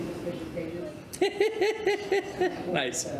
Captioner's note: giggles